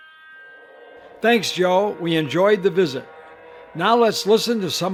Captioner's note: voiceover